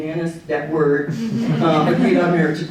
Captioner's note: audience laughing